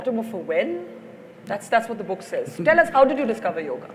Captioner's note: Sadhguru laughs